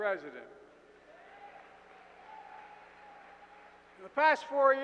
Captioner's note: applause